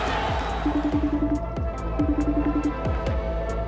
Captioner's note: cell phone ringing